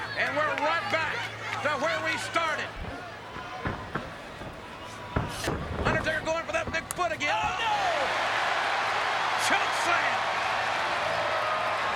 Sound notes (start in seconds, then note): 8.7 crowd cheers